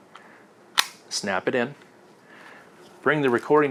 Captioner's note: snaps loudly